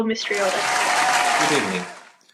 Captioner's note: applause